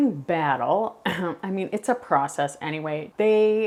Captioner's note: clears throat